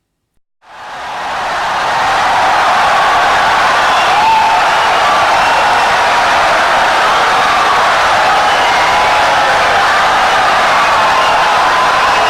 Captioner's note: wild applause and cheering for 17 seconds